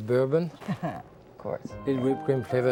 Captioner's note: chuckling